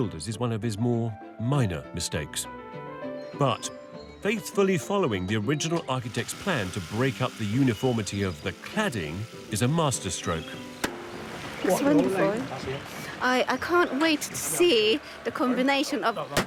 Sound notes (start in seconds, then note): 6.6 machine whirring